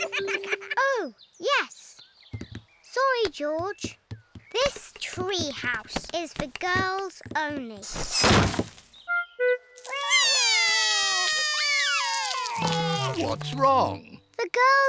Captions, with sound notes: Sorry, George, this tree house is for girls only. (BOTH CRY) -What's wrong? -The girls won't let us into the tree house.